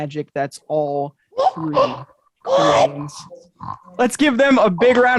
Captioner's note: exclaiming